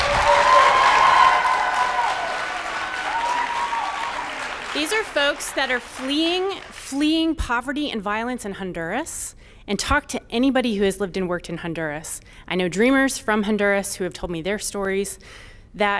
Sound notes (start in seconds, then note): 4.7 applause